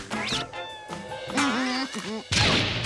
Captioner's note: evil laughing